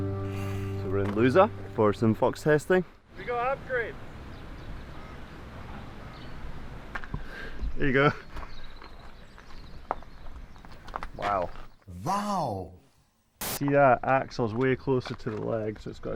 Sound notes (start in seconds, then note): 7.1 birds chirping; 13.3 static buzzing